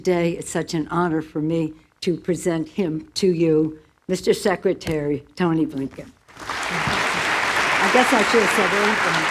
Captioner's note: applause